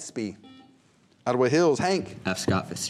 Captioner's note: buzzer